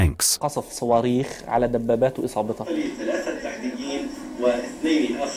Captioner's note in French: Arab spoken audio